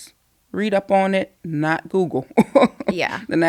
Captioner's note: laughing